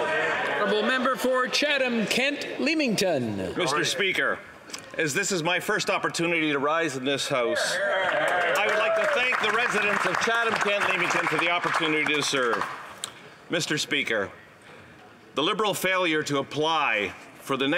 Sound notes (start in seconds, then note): 11.1 some Applause